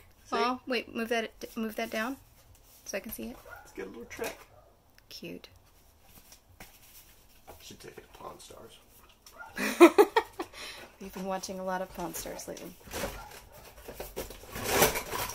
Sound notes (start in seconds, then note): 9.5 laughing